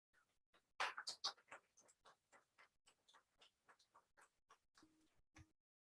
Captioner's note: council members clapping